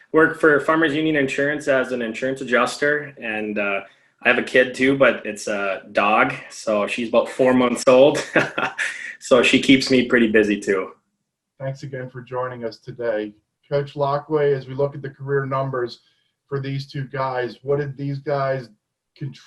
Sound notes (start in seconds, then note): 8.7 laughs